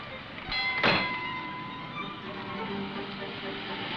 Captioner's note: bell ringing